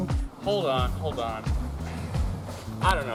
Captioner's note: sighs